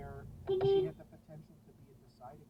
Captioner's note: beepBeep